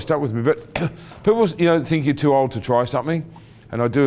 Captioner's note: clearing throat